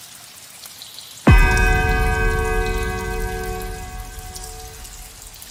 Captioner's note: fifth bell